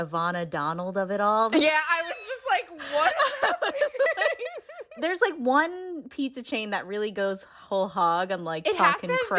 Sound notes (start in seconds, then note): 2.8 laughter